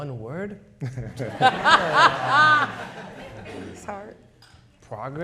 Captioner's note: people laughing